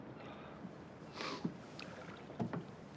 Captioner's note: sniffling